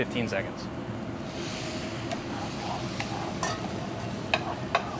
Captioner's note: pan sizzling